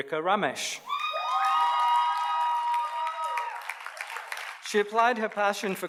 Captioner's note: audience cheers and applauds